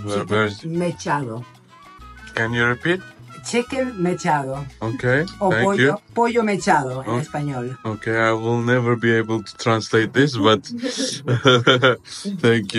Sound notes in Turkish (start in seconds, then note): 6.5 İspanyolca